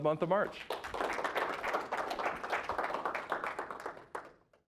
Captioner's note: applause